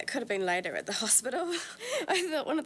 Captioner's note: laughs